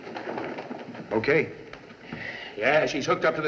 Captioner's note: footsteps